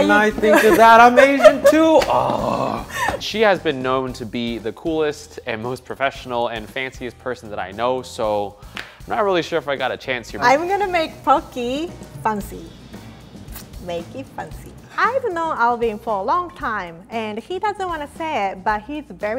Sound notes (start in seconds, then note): 2.0 annoyed grunt